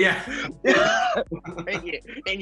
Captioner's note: laughing